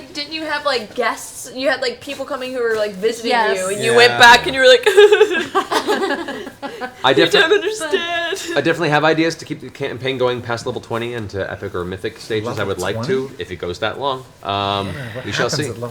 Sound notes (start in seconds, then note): 3.6 cries